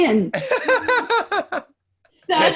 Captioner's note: laughing